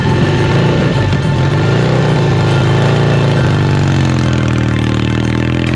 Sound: motorcycle engine revving

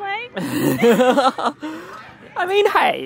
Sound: laughs

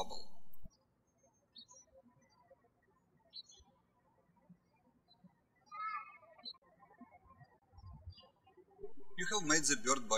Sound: birds chirping

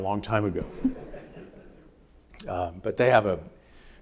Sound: audience laughing

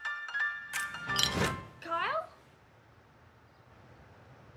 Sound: bottles clink

